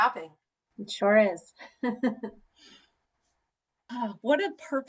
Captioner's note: laughter